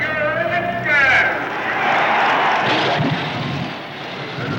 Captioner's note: crowd cheers